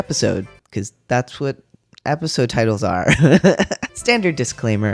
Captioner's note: laugh